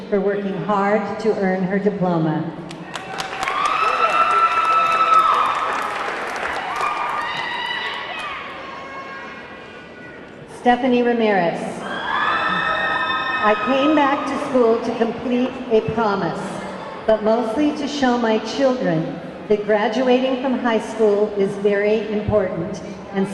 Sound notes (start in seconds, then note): 2.6 audience clapping; 2.8 audience cheering; 11.8 audience clamoring